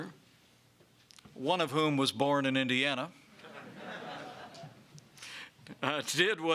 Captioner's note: laughter